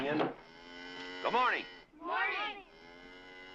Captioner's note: bull bellowing